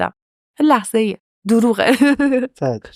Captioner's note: laughs